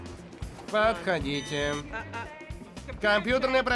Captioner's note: buzzer